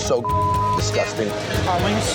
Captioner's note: beep